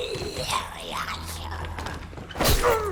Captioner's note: zombies growling